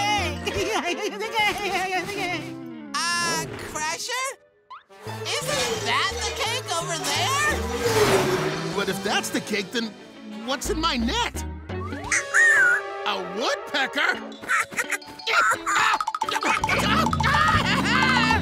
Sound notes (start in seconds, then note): 0.4 giggling; 11.7 squeaking; 14.3 squeaking; 15.8 yelling